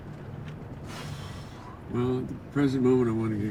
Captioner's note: exhales